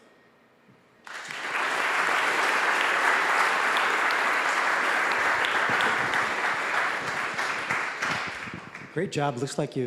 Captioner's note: applause